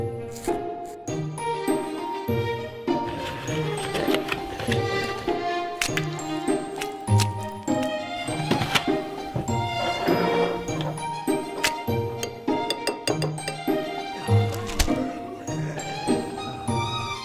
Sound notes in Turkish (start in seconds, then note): 3.2 Zombi hırlar; 12.1 Kaşık takırdar; 14.0 Şen bir müzik